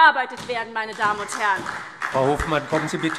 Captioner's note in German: Beifall SPD